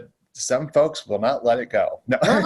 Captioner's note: laughs